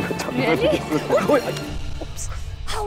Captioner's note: Udayan laughs